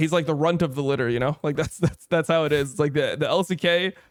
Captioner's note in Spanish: risas